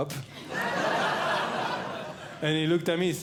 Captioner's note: audience Laughing